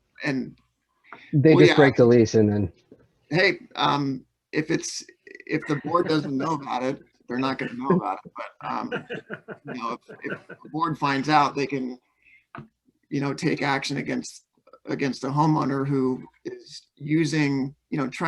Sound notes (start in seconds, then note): 7.4 laughs